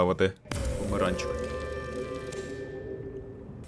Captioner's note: scary sounds